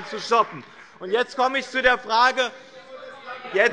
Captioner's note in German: Beifall bei dem BÜNDNIS 90/DIE GRÜNEN - Zurufe von der SPD